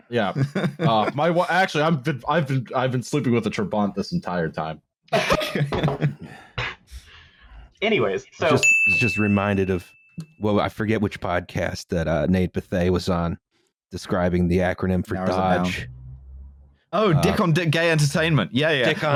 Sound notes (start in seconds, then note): 5.1 laughter; 8.5 ding!